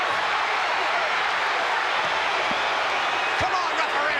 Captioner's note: audience cheering